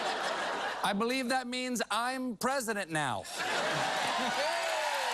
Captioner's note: laughter